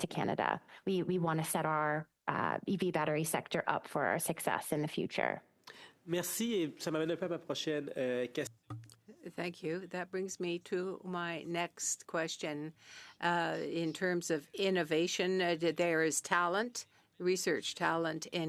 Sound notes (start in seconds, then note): 12.4 speaking French